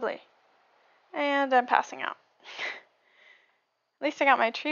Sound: laughs

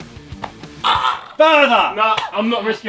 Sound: Ethan groaning

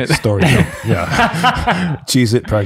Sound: group laughing

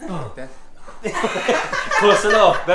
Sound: laughs

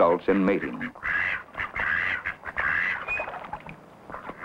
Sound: duck sounds

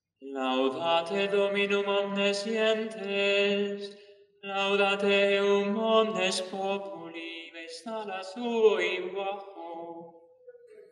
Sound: chant

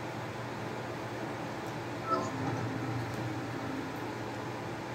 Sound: sounds of leveling up

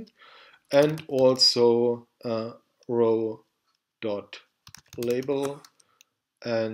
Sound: typing

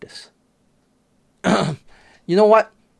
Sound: clears throat

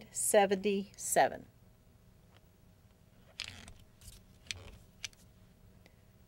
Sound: silence

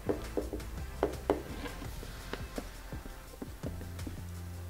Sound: tapping sounds

